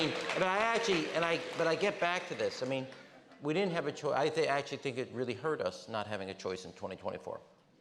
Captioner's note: laughter